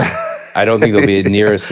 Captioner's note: Finn laughs